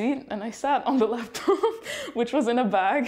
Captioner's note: laughter